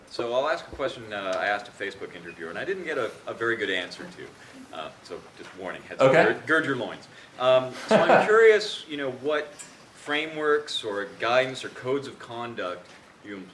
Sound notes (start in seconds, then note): 7.7 laughs